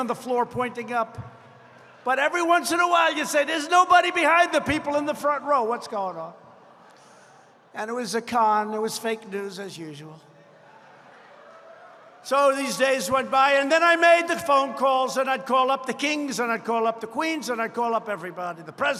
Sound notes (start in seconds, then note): 6.4 laughter